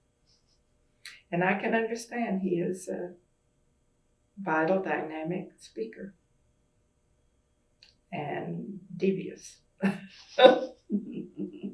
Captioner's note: laughter